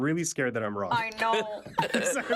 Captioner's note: laughing loudly